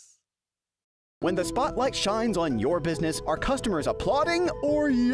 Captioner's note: voiceover